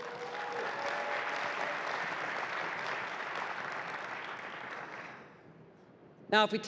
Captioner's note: applause